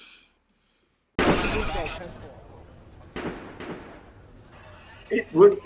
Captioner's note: distant voices, gunshots, police radio